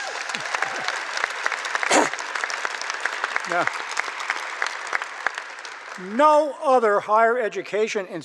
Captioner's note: applause